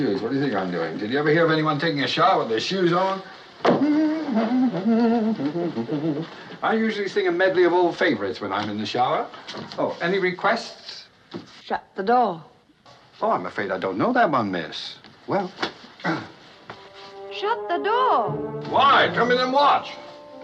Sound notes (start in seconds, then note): 3.7 humming; 16.0 clears throat